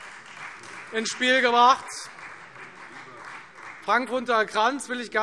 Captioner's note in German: Beifall Freie Demokraten